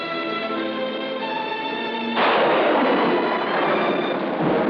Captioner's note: thunder crashes